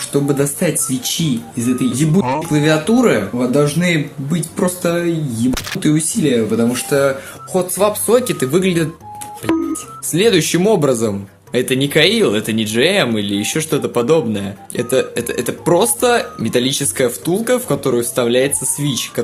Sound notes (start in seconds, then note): 9.4 bonk